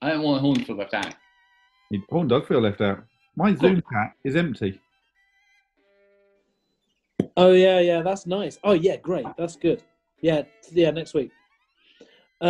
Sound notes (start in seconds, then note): 6.9 pop